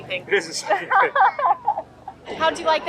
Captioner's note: chucking